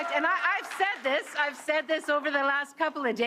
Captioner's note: cheers and Applause